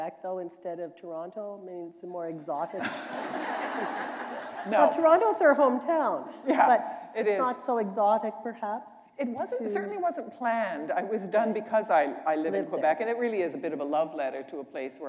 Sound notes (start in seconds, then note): 2.8 laughter